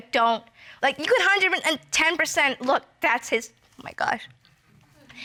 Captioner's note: voice breaking